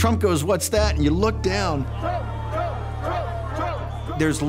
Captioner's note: chanting